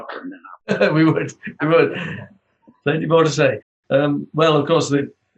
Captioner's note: laughs